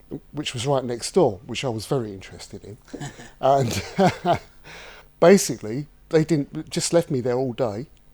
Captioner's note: heavy laughter